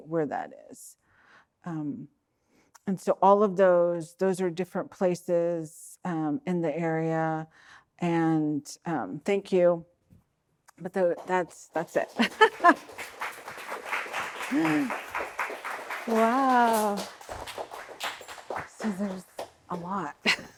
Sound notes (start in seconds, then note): 11.8 laughing; 12.9 audience clapping